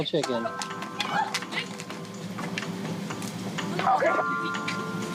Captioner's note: phone clattering; people screaming; elevator music continues